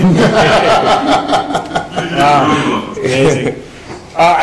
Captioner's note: laughing